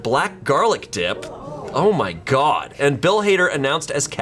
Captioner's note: colleagues gasping